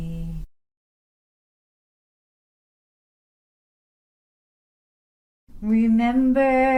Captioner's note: silence